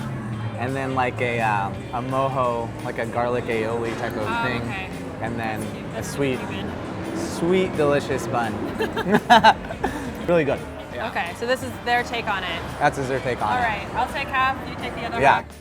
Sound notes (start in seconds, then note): 8.6 laughter